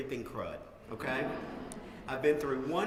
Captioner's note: laugh